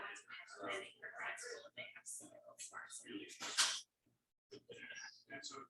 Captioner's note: people chattering indistinctly